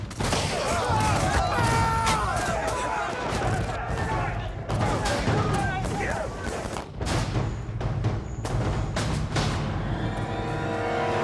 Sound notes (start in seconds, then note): 1.1 shouting; 4.7 rapid gun fire